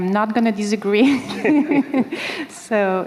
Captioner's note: laughter